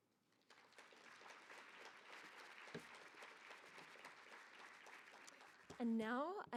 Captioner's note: applause